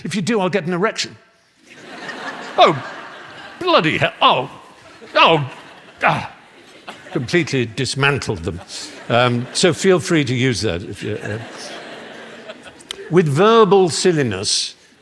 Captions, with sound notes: "If you do, I'll get an erection." "Oh bloody hell." [LAUGHTER] Completely dismantled them, so feel free to use that. With verbal silliness